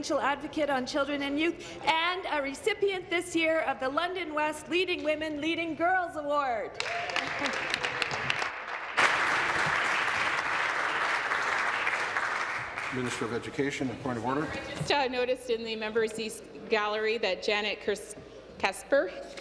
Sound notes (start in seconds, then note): 10.8 applause